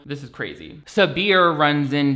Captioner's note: none